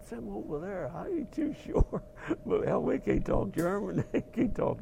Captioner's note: laugh